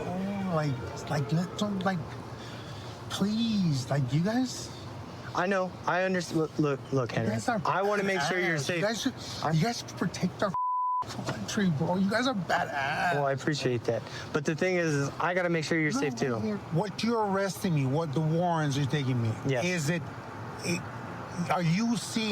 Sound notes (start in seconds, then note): 10.5 beep